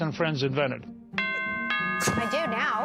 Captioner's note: bell ringing